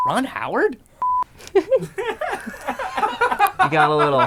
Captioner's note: laughing